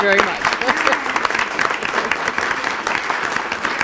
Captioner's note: applauding